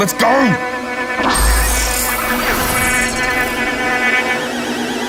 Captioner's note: electronic whooshing